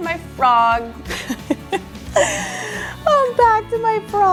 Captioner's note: laughs